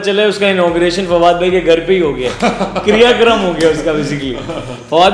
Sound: laugh

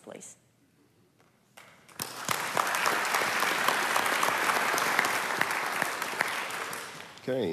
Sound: applause

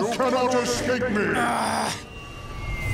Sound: groaning

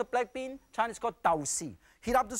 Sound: speaking in foreign language

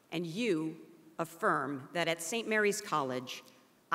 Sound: none

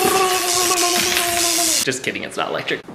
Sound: electricity static; stammering

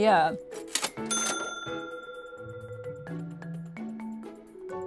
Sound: cash register rings

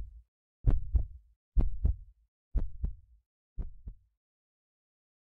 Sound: beating heart

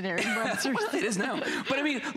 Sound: laughter

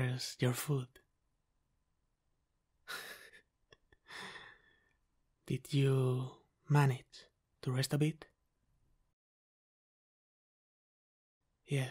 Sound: laughter

